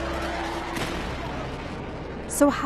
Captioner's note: explosion